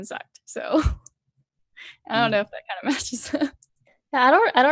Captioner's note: laughs